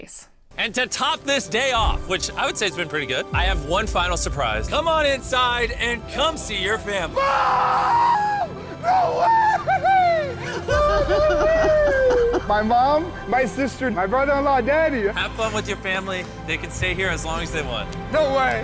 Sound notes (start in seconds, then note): 7.1 screaming; 9.6 laughter